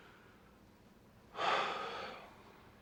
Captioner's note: sighs